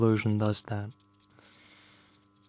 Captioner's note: breathing sound